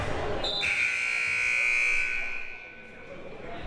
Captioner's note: buzzer